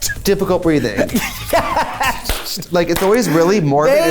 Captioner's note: laughs